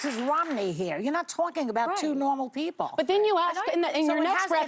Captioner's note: applause